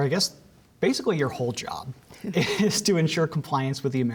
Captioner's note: laughter